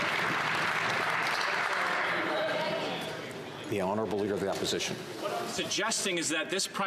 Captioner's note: some Applause